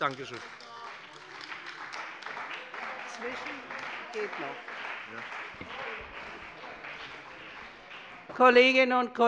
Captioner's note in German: Beifall bei dem BÜNDNIS 90/DIE GRÜNEN und der CDU